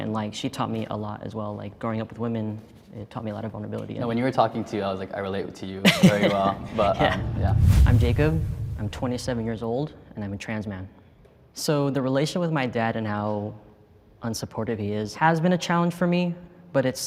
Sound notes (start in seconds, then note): 5.9 laughs; 6.4 whoosh air